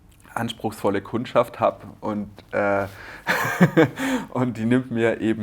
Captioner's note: laughter